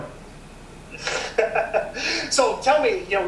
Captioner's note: laughs